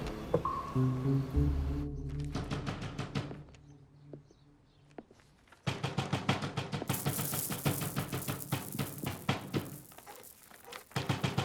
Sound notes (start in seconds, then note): 2.6 banging on the door